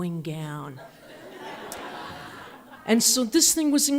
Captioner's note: audience laughs